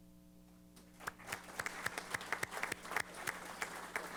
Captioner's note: applause